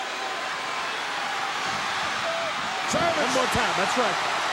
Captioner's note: audience cheering